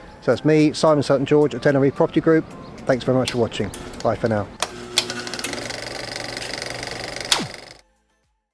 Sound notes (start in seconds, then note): 3.7 film reel